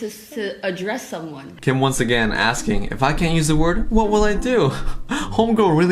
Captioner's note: laughs